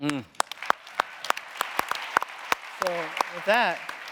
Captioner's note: audience applauding